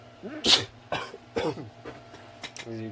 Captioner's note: sneezes, coughs; sarcastically